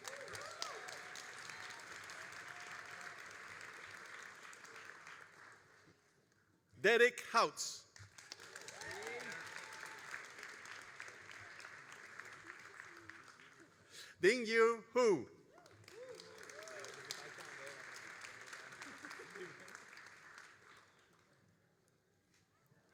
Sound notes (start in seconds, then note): 0.0 all applauding and cheering; 7.9 all applauding